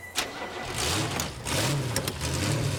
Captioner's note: engine starts